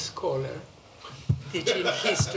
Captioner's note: laughter